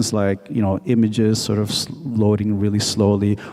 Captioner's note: none